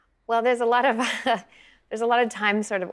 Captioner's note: chuckling